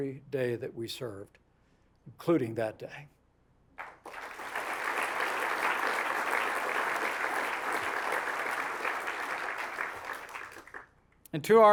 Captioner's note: applause